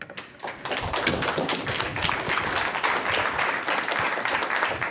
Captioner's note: applause